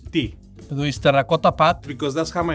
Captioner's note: speaks in foreign language